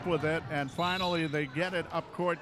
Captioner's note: referee whistling